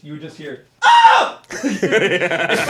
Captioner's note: screams; laughs